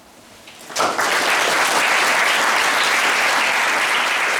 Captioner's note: applause